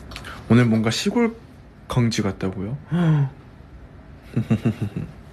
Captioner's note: laughs